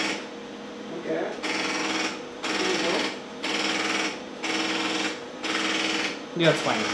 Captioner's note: tape noises